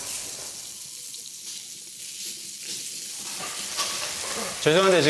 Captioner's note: sizzle... Sizzle